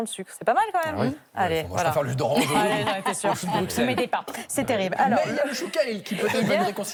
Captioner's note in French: rires